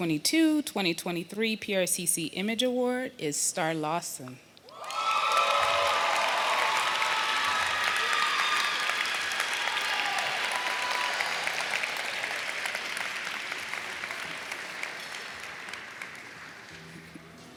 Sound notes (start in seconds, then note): 9.4 applause